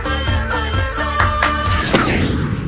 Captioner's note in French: Man claps twice